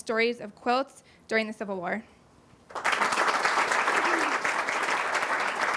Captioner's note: applause